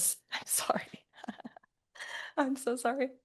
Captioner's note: laughter